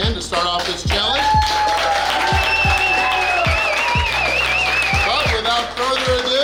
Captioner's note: cheering & Clapping